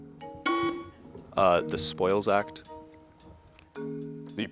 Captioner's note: bell sounds